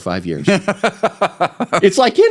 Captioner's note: laughing